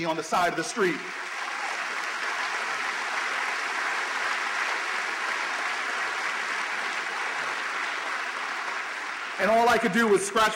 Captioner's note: applause